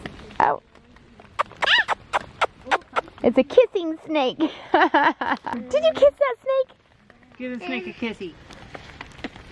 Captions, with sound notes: (kissing noises) Ah! It's a kissing snake. (laughing) Did you kiss that snake? Give the snake a kissie.